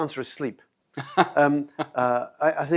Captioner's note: laughing